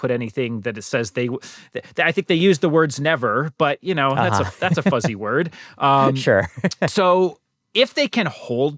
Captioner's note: laughter